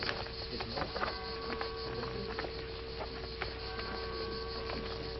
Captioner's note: crowd murmuring